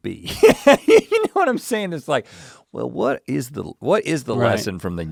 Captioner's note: Rhett laughs